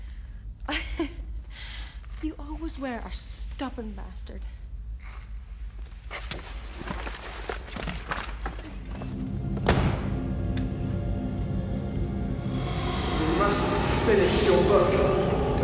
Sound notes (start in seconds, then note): 0.1 laughs incredulously; 7.6 door clicking; 8.0 soft ominous music; 9.6 door thudding; 12.1 soft eerie music